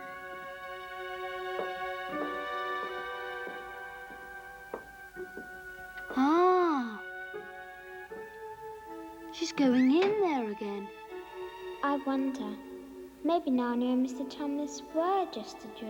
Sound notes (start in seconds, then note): none